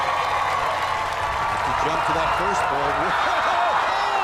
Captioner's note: cheers and applause